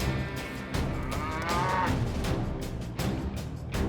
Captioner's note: cattle moo